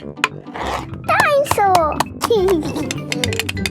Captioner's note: giggling